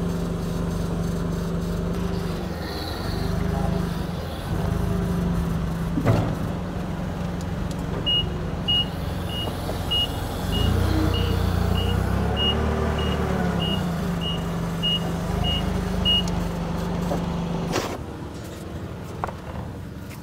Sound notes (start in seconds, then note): 8.6 motor humming, beeping; 17.5 motor humming